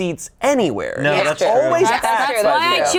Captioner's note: group agreeing